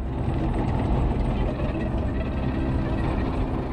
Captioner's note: tanks rumbling